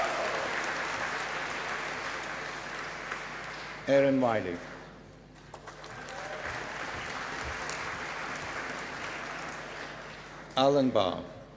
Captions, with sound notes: Aaron Wyllie. (APPLAUSE) Alan Barr